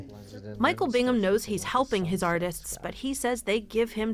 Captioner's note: voice-over